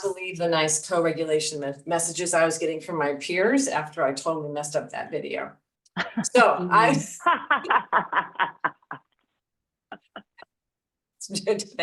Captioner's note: laughter